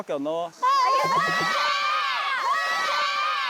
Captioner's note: shout~